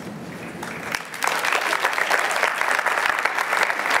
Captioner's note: applause